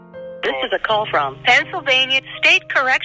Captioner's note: automated Voice